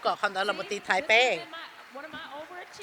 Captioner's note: cheers and applause